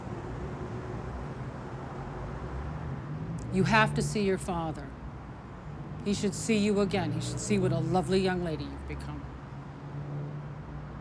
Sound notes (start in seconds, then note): none